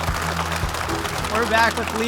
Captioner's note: audience applauding